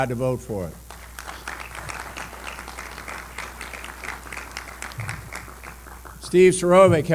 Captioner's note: applause